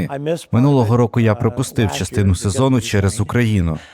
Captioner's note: laughs